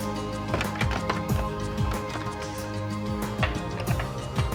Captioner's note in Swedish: flaskor klappar